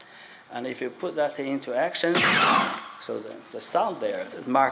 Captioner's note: laser sound